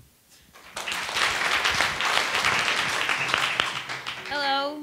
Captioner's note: attendees applauding